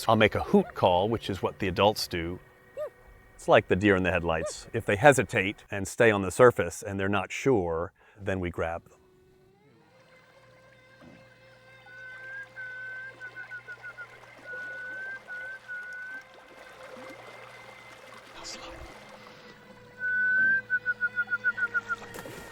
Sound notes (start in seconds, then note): 11.9 whistling; 19.9 whistling